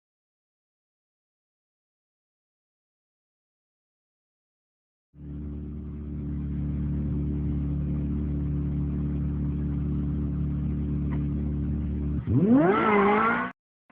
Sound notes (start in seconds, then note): 5.2 car engine roaring